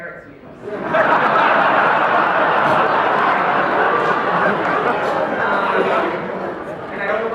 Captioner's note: laughter